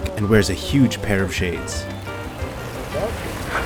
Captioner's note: none